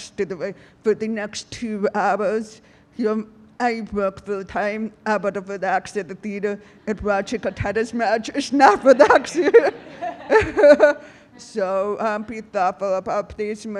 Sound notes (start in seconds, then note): 8.6 audience laughing; 8.7 laughs